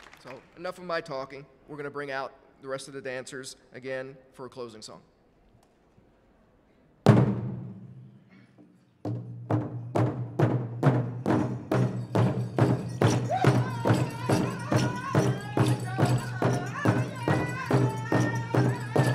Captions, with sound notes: So enough of my talking, we're gonna bring out the rest of the dancers again for a closing song. (drum beats intensely) (drum beating intensely) (regalia ornaments jingling) (lead singer singing)